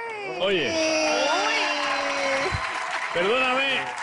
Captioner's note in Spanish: Exclamaciones; Aplausos